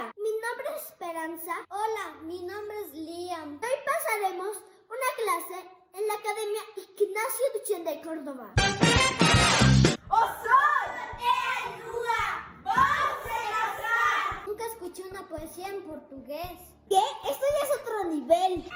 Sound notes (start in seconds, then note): 10.0 speaking in Portuguese